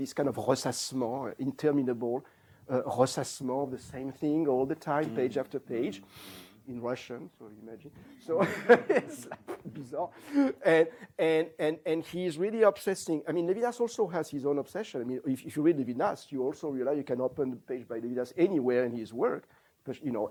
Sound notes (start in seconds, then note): 1.6 non-english; 8.0 laughs